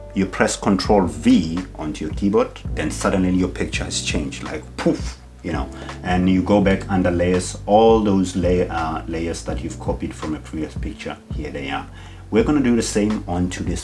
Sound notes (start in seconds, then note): 4.6 poof